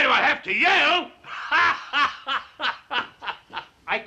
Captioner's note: laughs